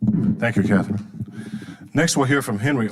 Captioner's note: microphone creaking